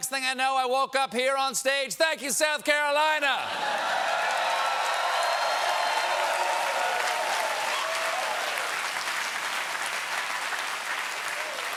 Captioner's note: cheers and applause